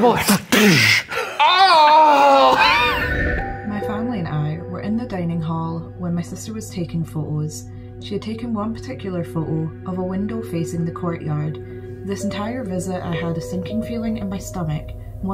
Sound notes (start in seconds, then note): 2.5 chuckling